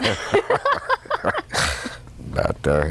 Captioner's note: laughter